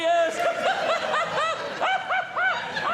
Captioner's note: audience Laughing; laughing